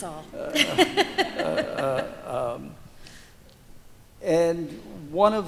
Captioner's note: laughs